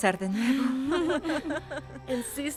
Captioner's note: La tres ríen